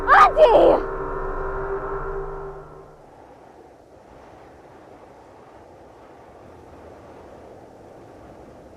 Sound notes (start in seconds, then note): 0.9 ominous music; 2.9 wind humming